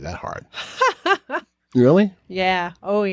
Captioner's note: chuckles